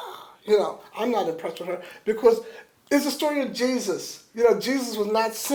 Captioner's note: exhales pointedly